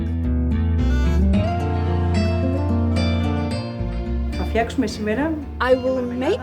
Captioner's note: woman speaking Greek